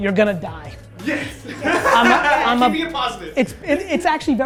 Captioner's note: laughs